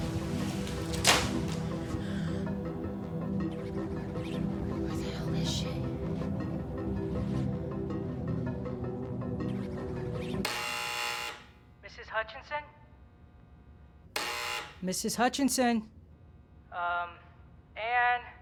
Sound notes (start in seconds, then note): 10.3 intercom buzzes; 14.1 buzzes again